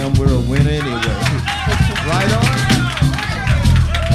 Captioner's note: crowd applause